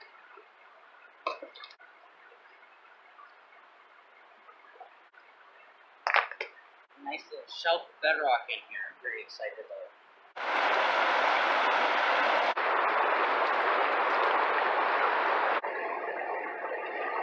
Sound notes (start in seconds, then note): 10.0 rushing water